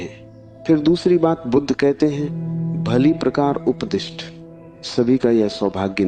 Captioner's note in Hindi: नाक से की जाने वाली आवाज़